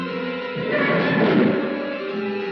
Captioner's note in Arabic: صراخ الباب